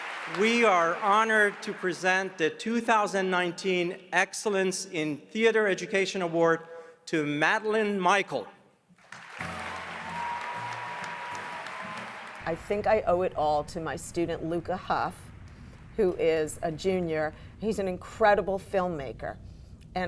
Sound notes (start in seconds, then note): 0.0 crowd cheers; 9.0 crowd cheers